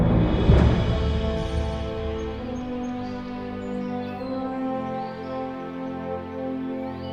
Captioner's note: powerful music; birds twittering